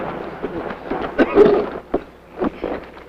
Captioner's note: explosion; cough